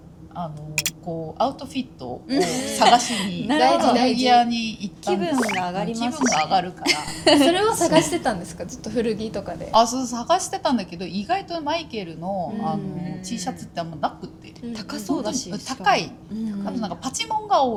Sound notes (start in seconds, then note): 5.3 laughs